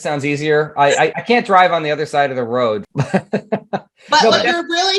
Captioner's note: laughing